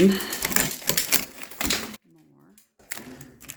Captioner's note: wood cracking